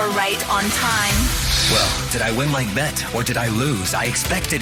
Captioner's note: Static